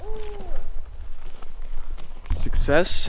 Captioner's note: owl hooting; whistling